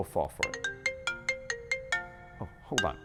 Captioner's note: phone ringing